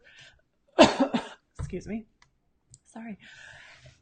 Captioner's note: coughs